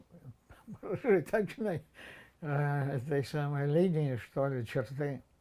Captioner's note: laughing